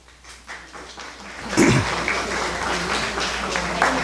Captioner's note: crowd clapping